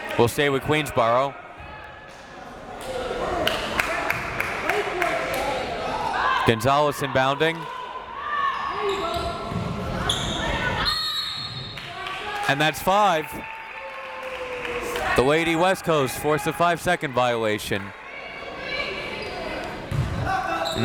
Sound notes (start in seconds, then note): 3.4 crowd clapping; 10.8 whistle tweeting